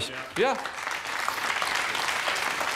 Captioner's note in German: Applaus